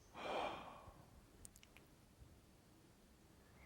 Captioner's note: Will sighing